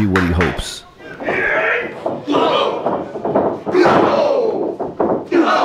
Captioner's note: audience cheering